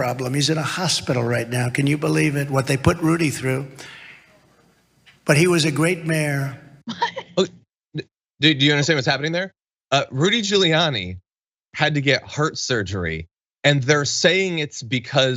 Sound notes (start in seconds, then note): 6.9 laugh